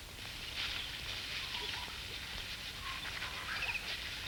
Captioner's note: birds chirp